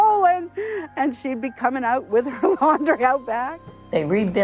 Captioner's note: laughs